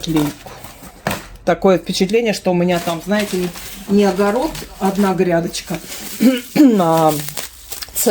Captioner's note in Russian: откашливается